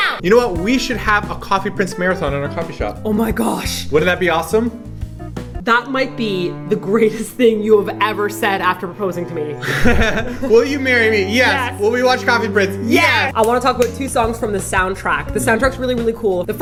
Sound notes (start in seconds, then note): 9.6 laughing